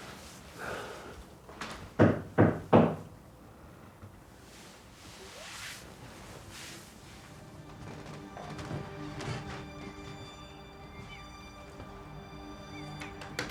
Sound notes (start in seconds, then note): 2.0 door knocking; 7.4 dramatic music